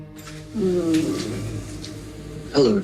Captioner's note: groaning